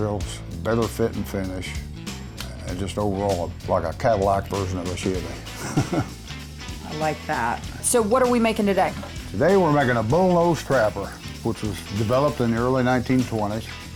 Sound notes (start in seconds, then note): 5.4 chuckling